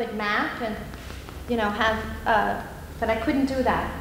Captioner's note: tapping